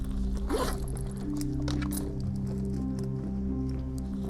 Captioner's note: zipper slides